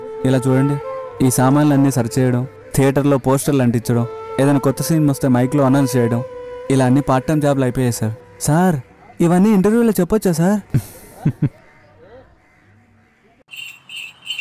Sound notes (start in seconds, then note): 10.7 chuckles